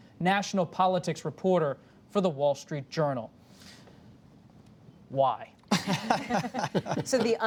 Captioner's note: laughter